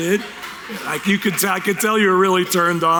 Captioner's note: a few cheers from the audience